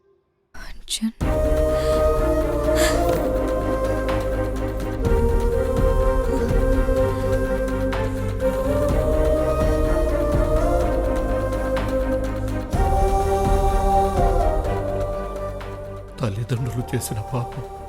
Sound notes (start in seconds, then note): 1.5 gasping; 5.9 sobbing